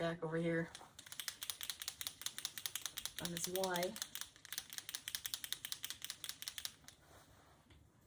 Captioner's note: shaking pen